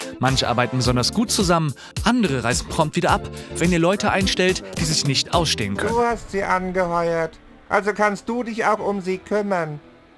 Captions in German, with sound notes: Manche arbeiten besonders gut zusammen, andere reisen prompt wieder ab, wenn ihr Leute einstellt, die sich nicht ausstehen können: (Schräge Ingamestimme)